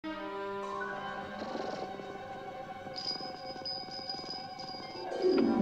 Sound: purring, Bell Rings

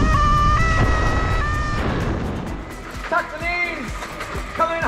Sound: excited screaming in the distance

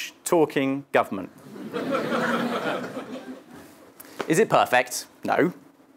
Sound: laugh

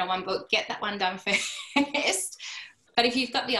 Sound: laughter

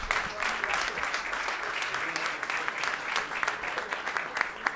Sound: applause

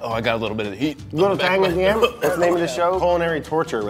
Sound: coughs

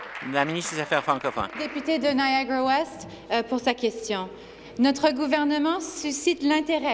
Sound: applause

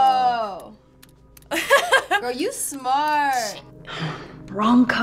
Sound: laughs

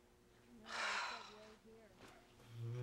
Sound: sighs

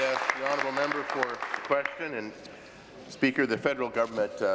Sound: applause

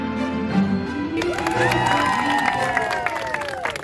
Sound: music crescendoes; clapping, cheering

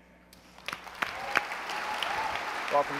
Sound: applause

